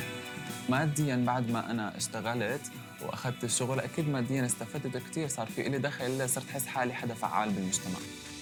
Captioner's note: non-english speech